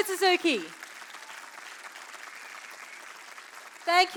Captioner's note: applause